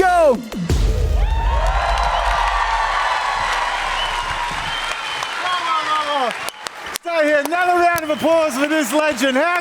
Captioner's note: applause